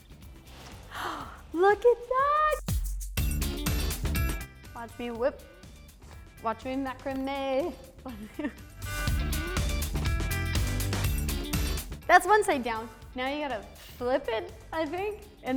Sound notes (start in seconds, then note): 0.8 gasps